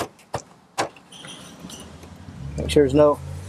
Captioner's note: parts banging